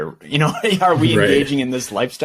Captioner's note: laughs